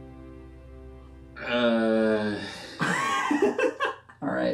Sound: pained groaning

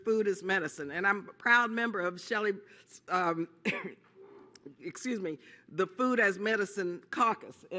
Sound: coughs

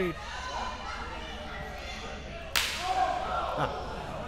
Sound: crowd yelling

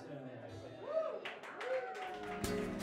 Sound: applause

